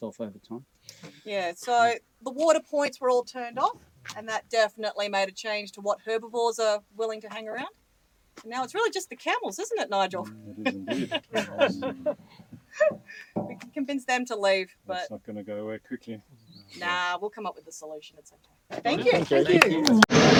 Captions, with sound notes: In 2003, there was quite a lot but that resolved itself over time. - Yeah, so the water points were all turned off and that definitely made a change to what herbivores are willing to hang around. Now it's really just the camels, isn't it Nigel? (laughing) We can convince them to leave but- - That's not gonna go away quickly.